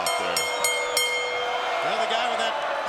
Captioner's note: bell rings